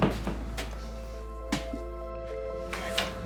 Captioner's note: creaking